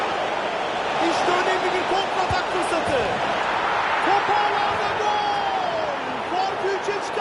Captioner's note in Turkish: coşkulu tezahürat